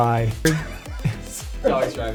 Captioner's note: laughing